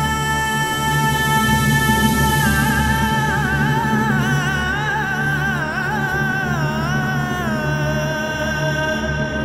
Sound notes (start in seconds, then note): 3.0 quavering voice gets louder